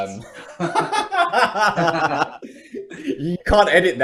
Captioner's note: laughing